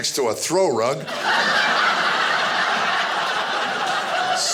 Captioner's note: audience laughing